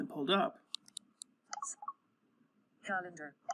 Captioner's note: clicking noise